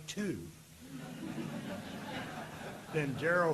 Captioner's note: audience laughing